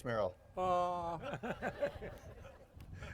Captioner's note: audience laughs